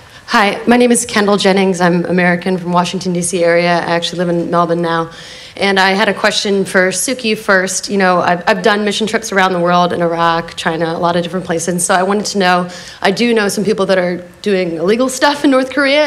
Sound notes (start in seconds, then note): none